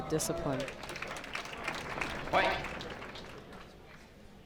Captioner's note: crowd applauds